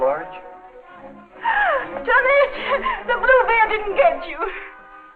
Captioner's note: gasping